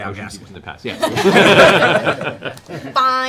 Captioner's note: laughter